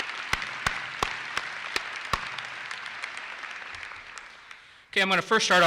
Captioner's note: audience applauses; claps